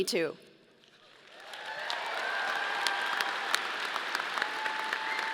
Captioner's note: audience applauding